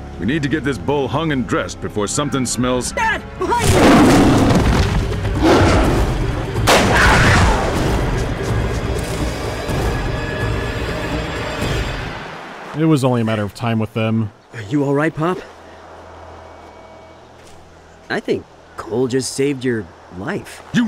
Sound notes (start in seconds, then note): 6.7 a gunshot and a screech of pain